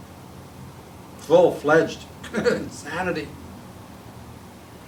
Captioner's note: chuckling